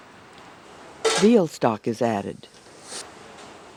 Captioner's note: voiceover